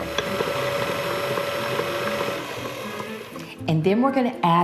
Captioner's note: mixer humming